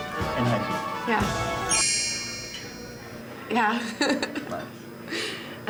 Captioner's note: laughs